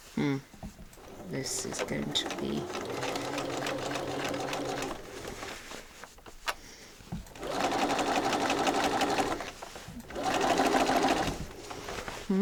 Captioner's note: sewing continues; sewing continues